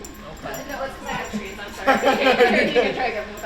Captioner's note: Caufield laughing